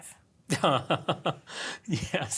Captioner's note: laugh